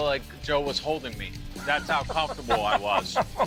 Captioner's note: laughing